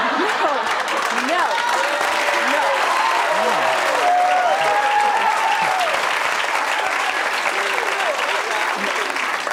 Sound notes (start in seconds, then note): 0.8 audience cheering